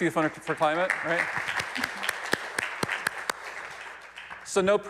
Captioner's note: audience applauding